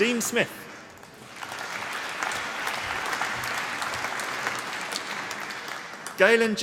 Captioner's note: applause